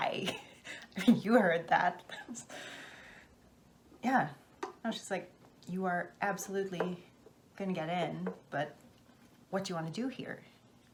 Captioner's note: laughs